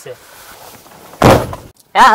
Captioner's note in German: rumms